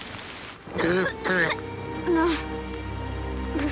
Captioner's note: coughing